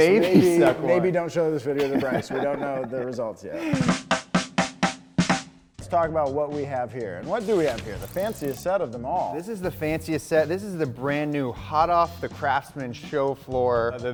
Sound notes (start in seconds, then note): 3.4 giggling; 3.6 upbeat music